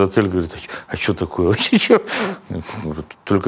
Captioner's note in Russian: напуганно